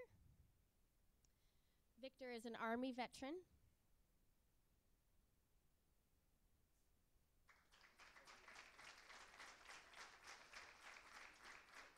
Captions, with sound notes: I'd like to call up Victor. Victor is an army veteran. (Applause).